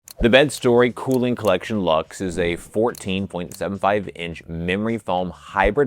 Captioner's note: bell dinging